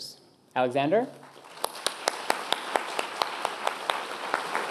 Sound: applause

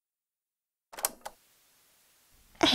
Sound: cassette noise

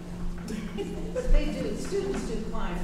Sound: laughing

